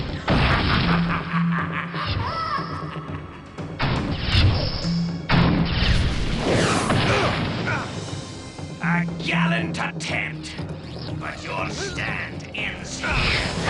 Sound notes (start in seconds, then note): 0.0 fwoosh! boom!; 0.5 sinister laughter; 6.9 boom!; 6.9 grunting; 13.2 groans, grunts